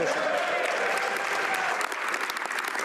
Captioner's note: speaking French